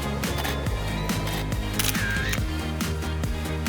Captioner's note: camera shutters